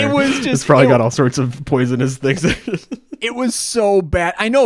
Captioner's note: laughs